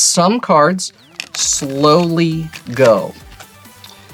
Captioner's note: cards riffling